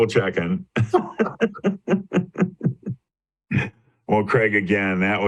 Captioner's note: both laugh